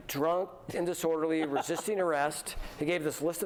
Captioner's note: laughter